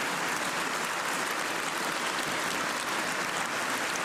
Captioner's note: cheers and applause